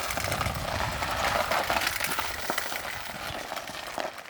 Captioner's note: wheels rattling